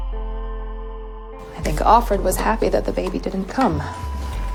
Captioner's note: voiceover